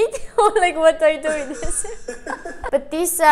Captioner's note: laughing